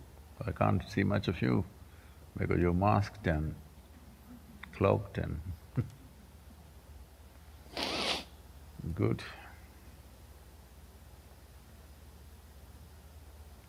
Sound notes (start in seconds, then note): 9.1 laughs